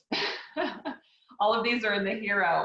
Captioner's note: laughs